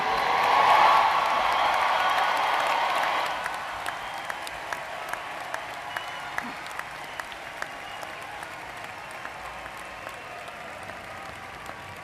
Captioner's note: applause